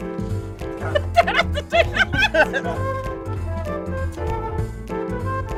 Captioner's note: laughter